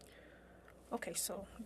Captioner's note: speaking French